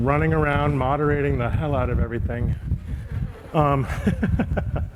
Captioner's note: chuckling